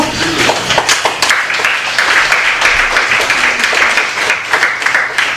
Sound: applause

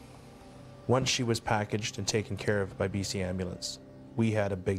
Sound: voiceover

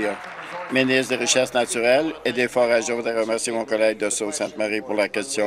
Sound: applause

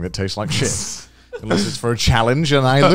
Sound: laughing

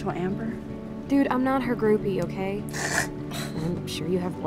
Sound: snicker

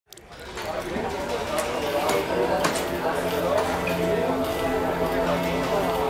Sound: customers chattering; gentle music

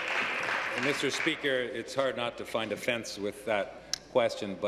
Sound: applause

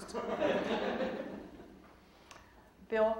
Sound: audience laughing

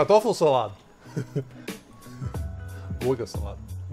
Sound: laughing

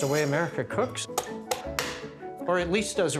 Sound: knife smacking lobster

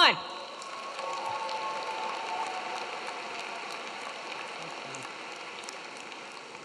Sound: audience cheering; audience clapping

